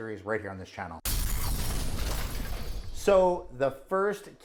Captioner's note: explosion